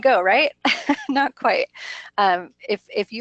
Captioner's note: laughs